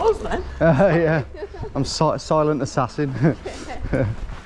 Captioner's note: chuckles